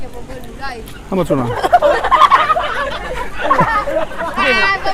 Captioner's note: laughter